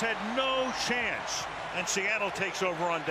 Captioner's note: cheering